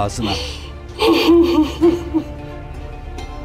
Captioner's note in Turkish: Ağlama sesi